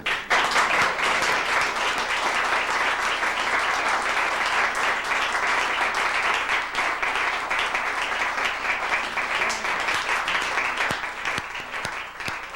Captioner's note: applause